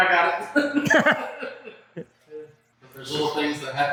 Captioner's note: smattering of lulz